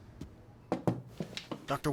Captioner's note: tap on table